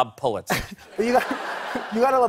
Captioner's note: laughter